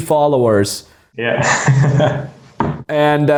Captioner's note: man laughing